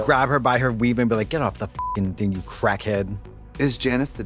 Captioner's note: beep